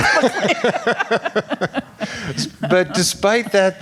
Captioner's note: laughing